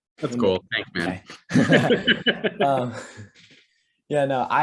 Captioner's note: laughter